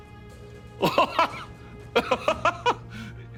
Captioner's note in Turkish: Gülme sesi